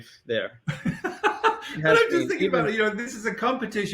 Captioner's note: laughing